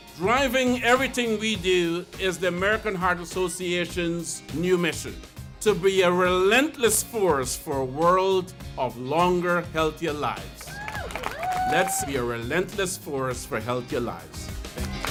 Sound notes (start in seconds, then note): 10.6 crowd cheering